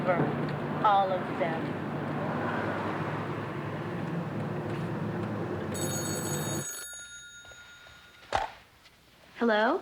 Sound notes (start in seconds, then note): 5.7 phone ringing